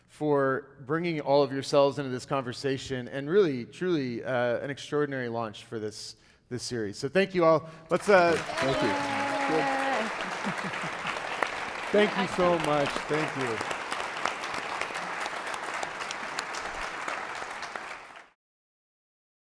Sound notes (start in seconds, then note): 10.4 audience clapping; 15.4 audience clapping